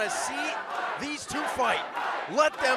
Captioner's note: crowd cheering